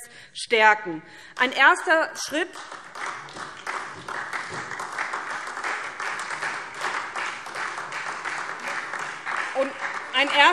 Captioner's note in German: Beifall SPD